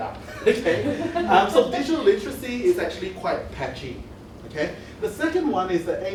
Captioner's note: laughs